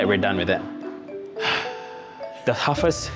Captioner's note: exhales